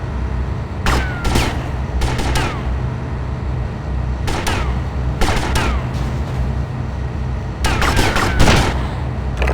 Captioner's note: gunfire; gunfire